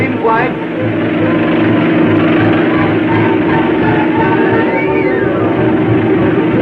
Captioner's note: car thrumming; thrilling music